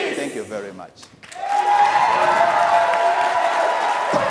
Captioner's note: applauding